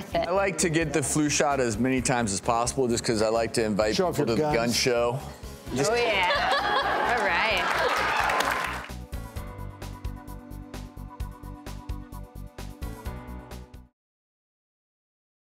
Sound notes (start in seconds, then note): 5.9 laughing; 8.2 soft music